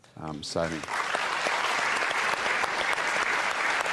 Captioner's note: applause